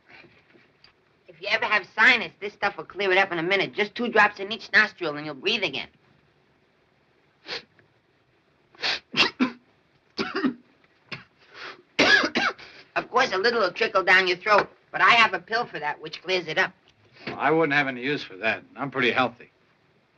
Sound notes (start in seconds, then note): 8.8 sniffing; 8.9 coughing